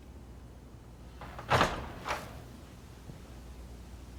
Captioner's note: door opening